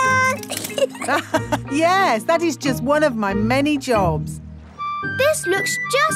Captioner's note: laughs